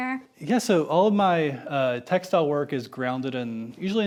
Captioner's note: none